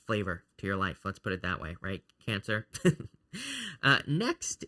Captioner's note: chuckles